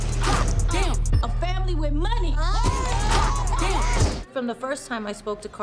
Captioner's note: ladies yelling